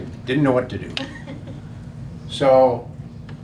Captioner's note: laughing